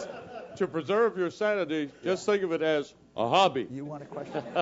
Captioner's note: laugh